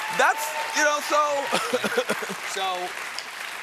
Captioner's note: applause